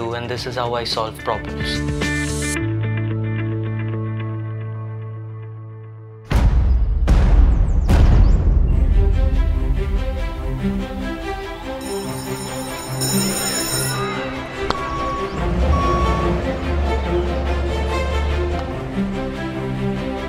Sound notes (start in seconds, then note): 6.3 boom; 11.7 bell ringing